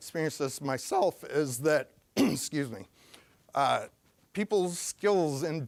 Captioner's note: voice cracking; clearing throat